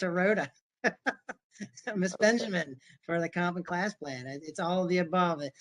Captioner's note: laughter